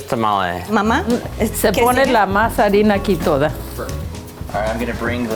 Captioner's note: speaks in Spanish